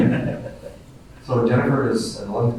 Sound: group laughing

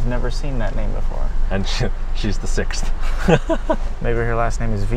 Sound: chuckling

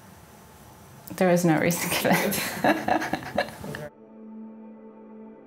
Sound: laughing

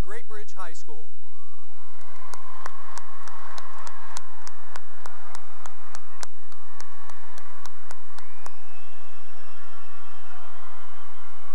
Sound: cheering and applause

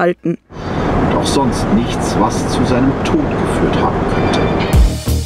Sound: podcast voice

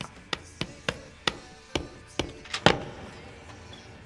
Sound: knocking; banging

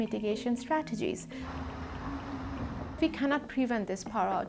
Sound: gust of wind

